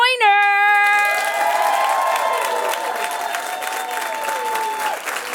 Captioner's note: audience applauding